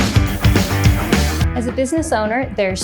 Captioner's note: machine whirring